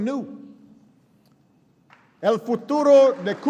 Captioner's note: applause